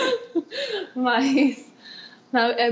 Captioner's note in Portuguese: Risos